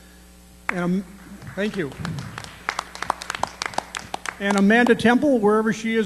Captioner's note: applause